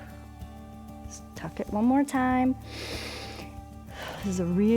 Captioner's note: inhales and exhales